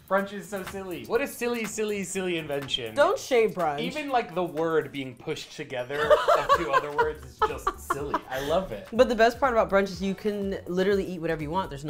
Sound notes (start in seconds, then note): 6.0 laughs